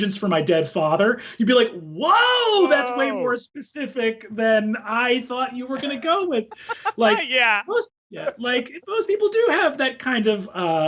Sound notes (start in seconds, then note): 6.3 laughs